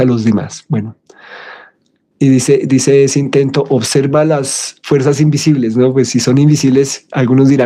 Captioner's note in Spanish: suspiro